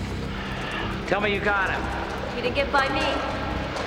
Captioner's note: sighs